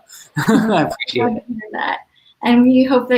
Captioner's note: laughs